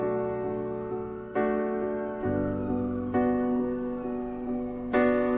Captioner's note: sirens wailing